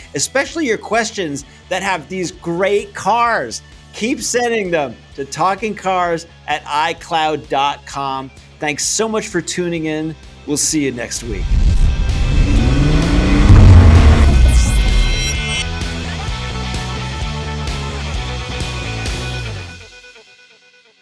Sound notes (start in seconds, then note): 11.2 engine revs; 15.5 rock music